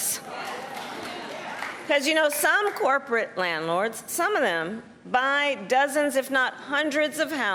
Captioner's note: applause